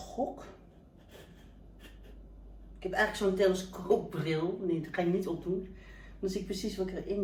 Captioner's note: haha